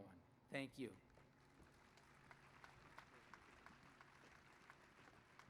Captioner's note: applause